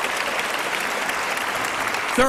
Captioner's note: applause